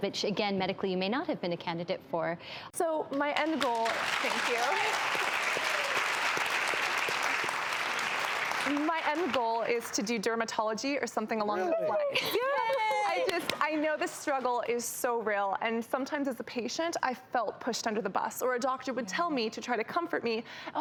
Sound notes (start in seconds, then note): 3.5 audience applauds; 12.6 excitedly claps